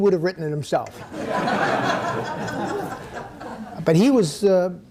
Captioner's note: audience laughing